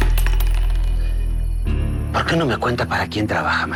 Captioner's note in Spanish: Tintineo metálico